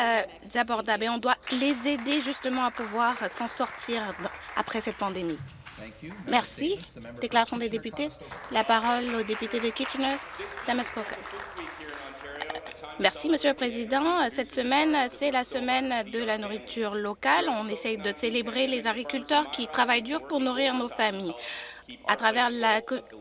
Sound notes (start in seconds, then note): 5.3 some Applause